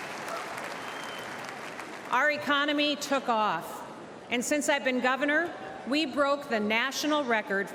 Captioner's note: applause